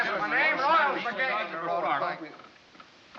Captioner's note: indistinct chatter